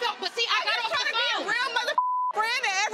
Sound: beep

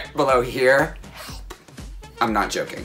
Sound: whispers

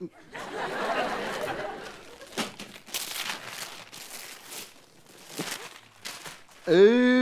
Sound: crinkling

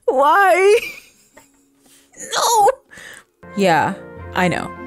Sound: breathes

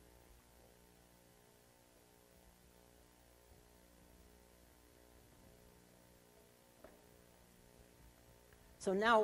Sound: silence

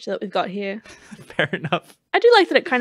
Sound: laughing

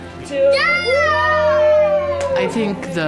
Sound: family cheering

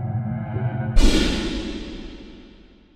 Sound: gunshot

